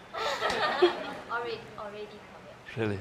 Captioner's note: laughter